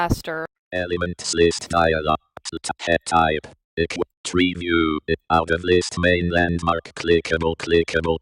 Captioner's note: NVDA speaking